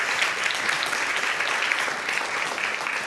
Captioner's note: audience applauding